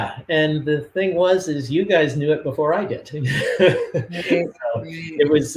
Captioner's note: laughs